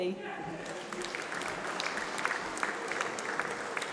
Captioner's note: applause